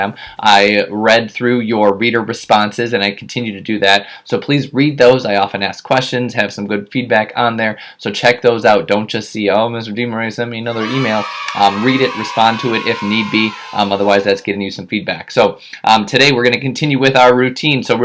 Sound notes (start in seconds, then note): 10.7 children cheering in background